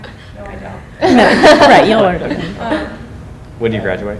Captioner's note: laughs